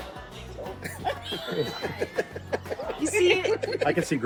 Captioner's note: group laughing